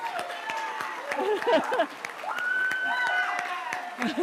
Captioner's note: laughs